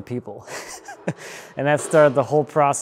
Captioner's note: chuckling